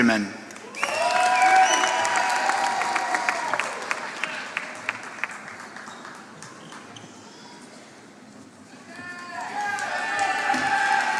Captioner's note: applause